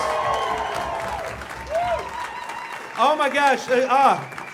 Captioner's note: audience cheering